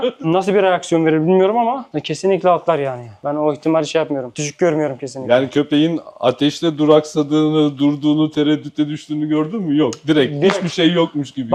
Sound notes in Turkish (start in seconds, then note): none